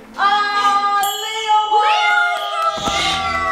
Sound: cheering

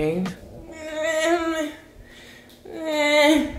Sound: sighs

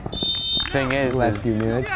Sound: whistle blows

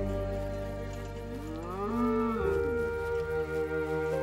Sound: cow moos weakly

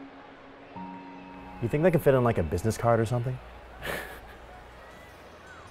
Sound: laughs

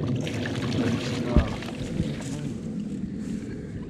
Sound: fish splashing

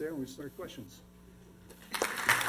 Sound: applause

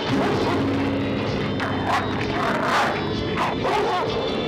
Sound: dogs barking and growling

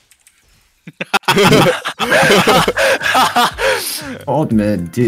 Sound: laughs

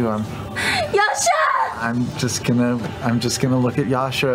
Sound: crying

